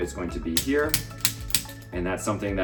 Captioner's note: activator clicking